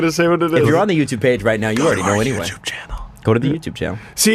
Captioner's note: whispers